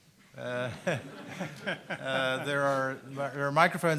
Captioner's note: everyone laughs